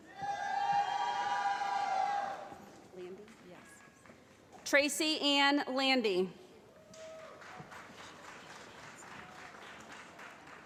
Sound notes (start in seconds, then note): 0.0 cheering; 6.8 applause